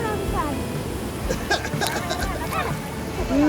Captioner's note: laugh